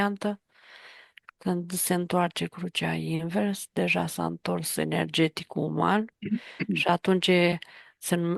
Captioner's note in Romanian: voce dreasă